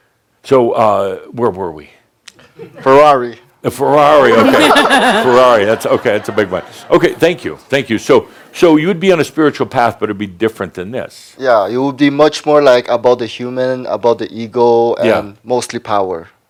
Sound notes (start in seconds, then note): 4.2 laughter